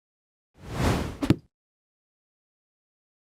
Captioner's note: air whooshing